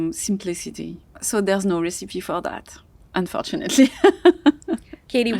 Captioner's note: laughs